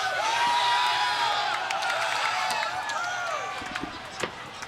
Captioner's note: group cheering